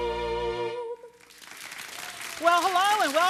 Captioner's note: audience applauding